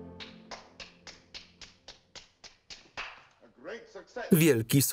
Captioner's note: Cyrano claps his hands